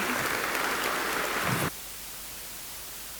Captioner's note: applause